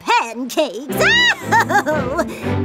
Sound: laughing

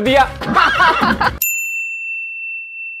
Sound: laughing

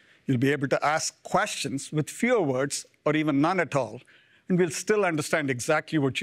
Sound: none

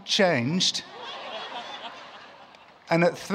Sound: laughter

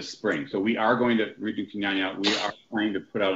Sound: speaking softly

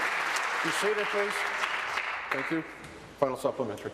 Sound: applause

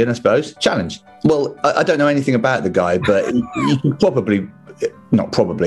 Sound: sniggering

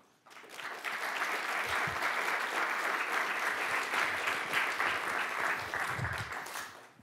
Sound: applause

